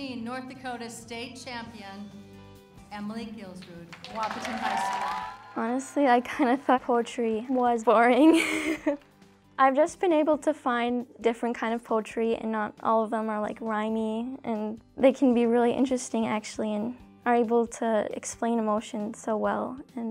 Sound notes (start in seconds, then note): 8.2 laughs